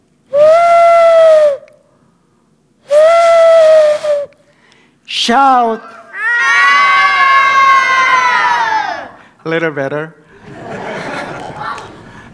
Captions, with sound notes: [horn like sound] [horn like sound] SHOUT! [kids shouting] A little better. [laughter]